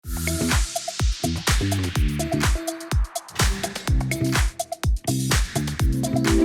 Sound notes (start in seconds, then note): 0.1 air whooshing; 2.7 upbeat pop music